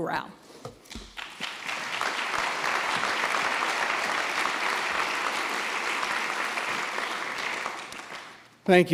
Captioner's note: applause